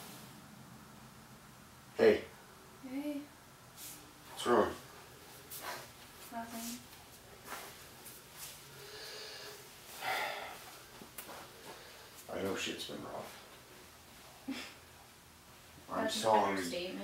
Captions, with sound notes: -Hey. -Hey. -What's wrong? -Nothing. [footsteps] [sighs] I know shit's been rough. [chuckles]